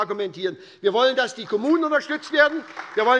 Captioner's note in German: Beifall bei der SPD